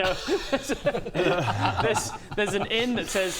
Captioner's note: laughs at Rob's pain